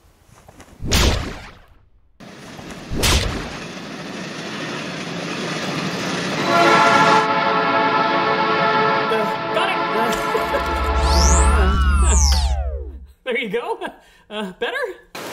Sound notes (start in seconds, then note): 4.6 train approaching; 6.4 horn blaring